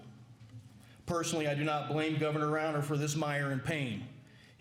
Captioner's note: none